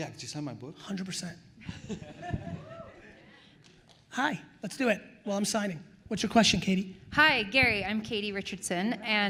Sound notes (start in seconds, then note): 1.6 attendees laughing